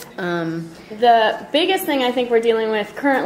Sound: voiceover

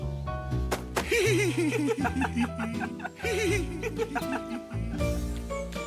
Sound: laughter

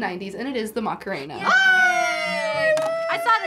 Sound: both cheering

